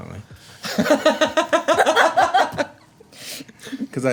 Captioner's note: laughing